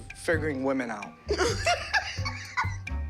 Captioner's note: laughing